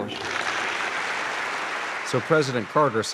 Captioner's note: applause